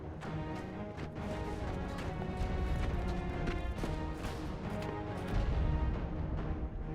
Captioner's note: faint sound of multiple explosions